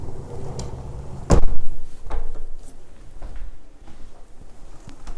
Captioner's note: windows latching closed